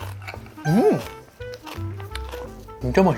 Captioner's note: satisfied sound effect